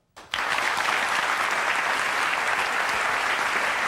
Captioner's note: audience applauding